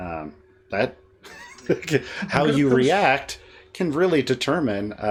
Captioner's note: chuckles